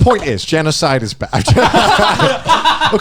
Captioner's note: laughs